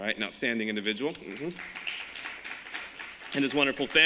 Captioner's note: applause